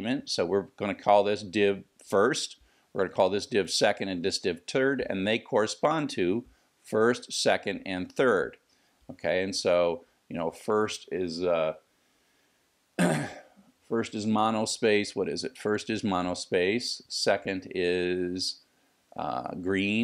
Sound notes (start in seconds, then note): 13.0 cough